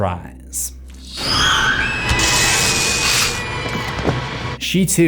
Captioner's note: high-pitched scream